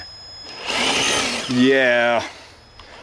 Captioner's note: engine roaring